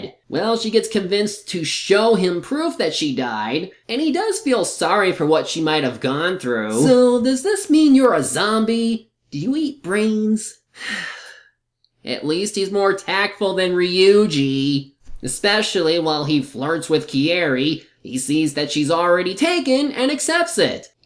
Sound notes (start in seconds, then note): 10.8 sigh